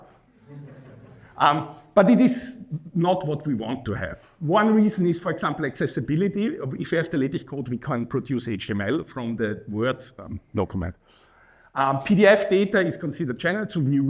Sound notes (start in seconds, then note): 0.4 laughing